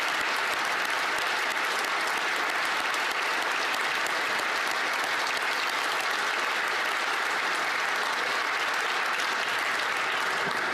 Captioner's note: applause